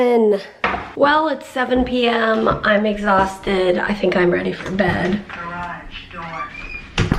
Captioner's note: electronic voice